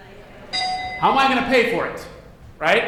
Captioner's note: dinging